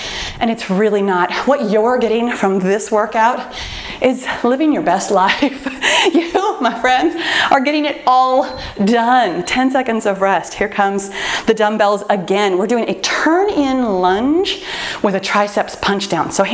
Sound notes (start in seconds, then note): 5.4 laughs; 8.0 timer beeps